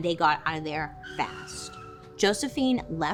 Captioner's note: car wheels screeching